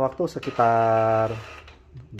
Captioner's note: printer machine sound